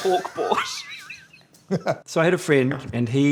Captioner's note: laughs